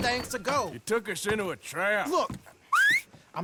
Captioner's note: whistles for his horse